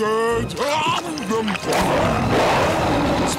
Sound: roaring

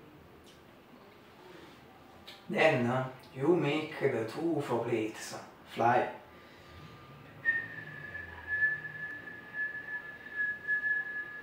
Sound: whistle

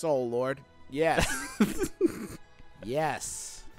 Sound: laughing

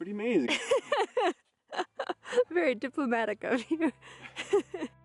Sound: laughing

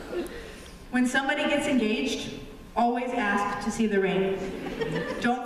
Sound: laughter; laughter

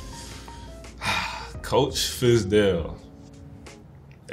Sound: exhales

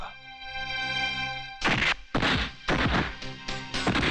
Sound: fighting Sound

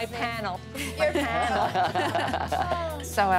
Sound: laughs

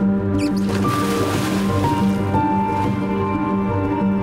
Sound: water splashing

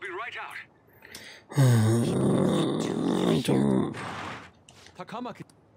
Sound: groan

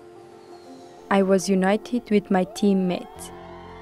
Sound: cheering

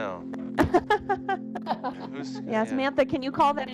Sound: group laughs

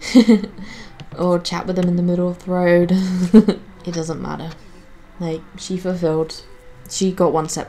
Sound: giggles

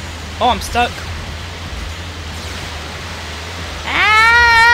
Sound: water rushing

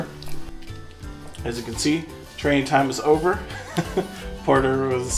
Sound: laughs

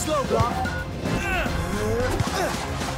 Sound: Blok speaking Brislovian; grunting

